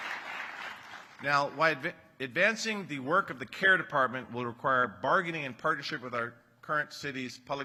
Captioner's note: applause